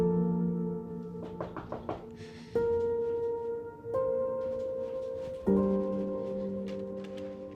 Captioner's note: Summer sighs; door knocking